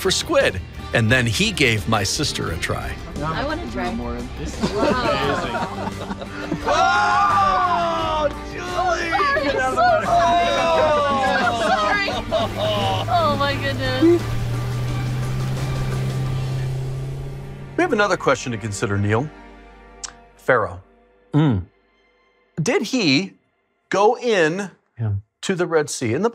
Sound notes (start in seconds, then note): 4.5 laughter; 6.6 screaming